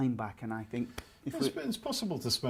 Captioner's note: snaps fingers